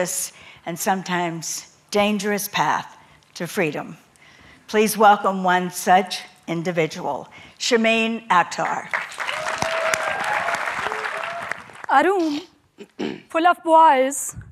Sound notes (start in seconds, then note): 8.6 applause